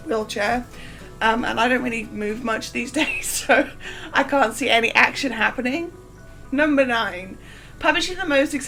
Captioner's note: laughing